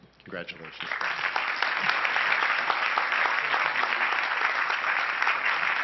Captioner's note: crowd applauding